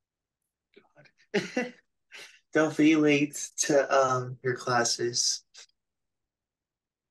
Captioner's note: laughs